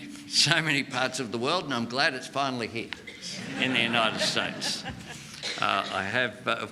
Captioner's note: laughter